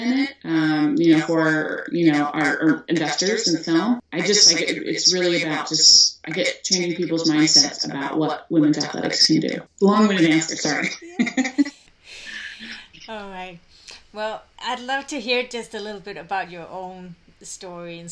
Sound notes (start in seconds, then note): 10.0 chuckles